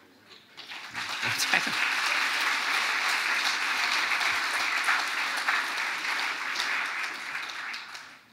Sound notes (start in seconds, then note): 0.5 audience applauding